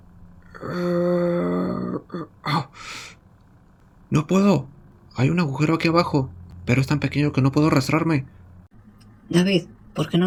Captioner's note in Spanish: Quejidos